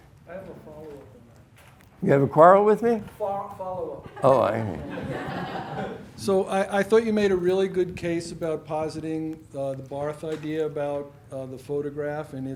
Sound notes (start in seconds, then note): 5.7 students laughing